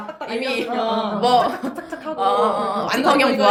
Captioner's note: laughs